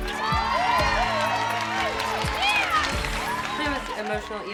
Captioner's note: audience cheering